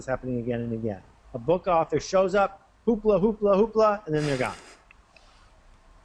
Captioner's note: laughter